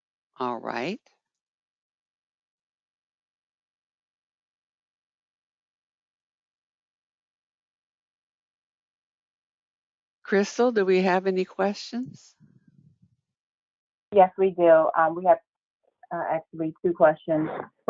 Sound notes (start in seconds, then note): 1.3 9 seconds pause